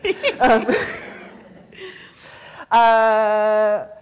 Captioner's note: laughs